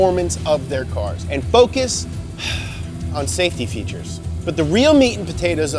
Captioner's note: sighs